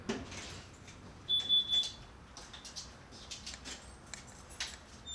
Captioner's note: alarm dings softly